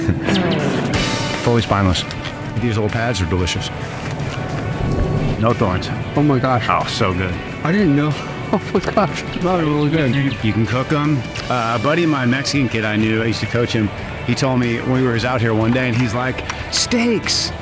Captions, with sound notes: off always by Amazon. These little pads are delicious. No thorns. Oh my gosh! So good. I didn't know. [LAUGH] OMG, that was really good! You can cook them. A buddy of mine, Mexican kid I knew I used to coach him. He told me we were out here one day and he's like steaks.